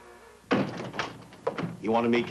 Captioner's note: door bangs open